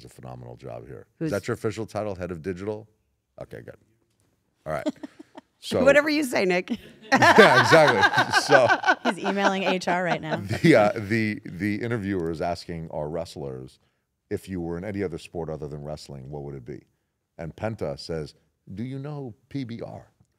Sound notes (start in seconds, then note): 6.8 laugh